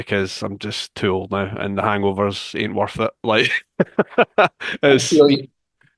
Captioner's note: laughs